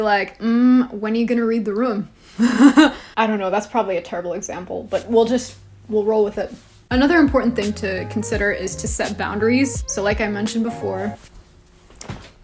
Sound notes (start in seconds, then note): 2.0 laughs